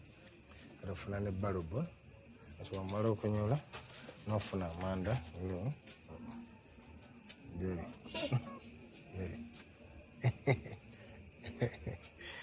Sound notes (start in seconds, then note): 8.0 daughter chuckling; 10.2 chuckling